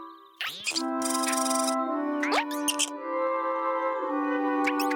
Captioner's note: animal noises